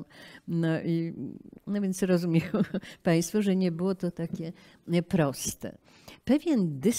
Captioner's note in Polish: śmiech